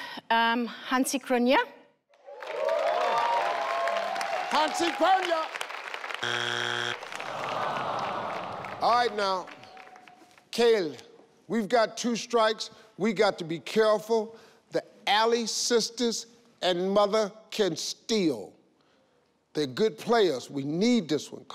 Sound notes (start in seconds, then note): 2.2 audience cheering; 6.2 screen buzzing; 7.1 audience awing